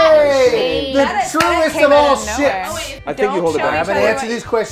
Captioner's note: overlapping chatter